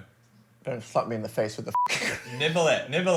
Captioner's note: beep